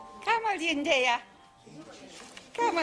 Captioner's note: speaking gibberish